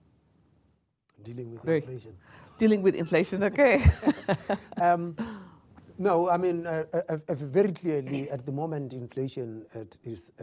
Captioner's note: laughter